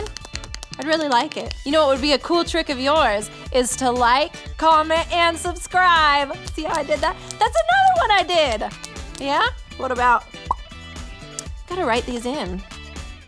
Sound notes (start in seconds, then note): 6.8 fingers snapping; 10.4 mouth popping